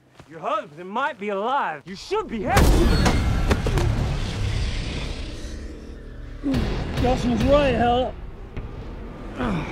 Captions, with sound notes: Your husband might be alive. You should be happy-- [Grunts] [Ghostly whispering] Gus was right, Ella.